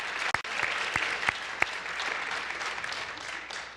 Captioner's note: applause